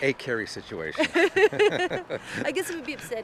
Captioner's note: both laughing